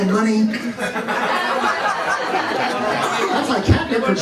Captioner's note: laughter